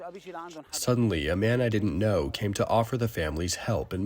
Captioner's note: through translator